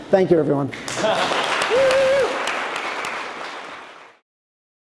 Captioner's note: audience applauding